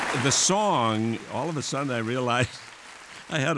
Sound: applause

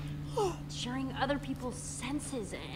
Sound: Sabrina yawns

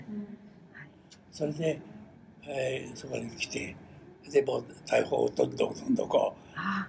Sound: foreign language

